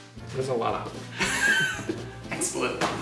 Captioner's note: laughing